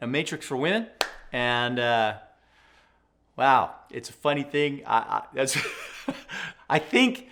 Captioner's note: chuckling